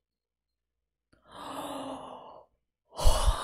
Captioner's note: inhales